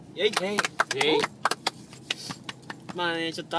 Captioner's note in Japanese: パチパチ★∻∹⋰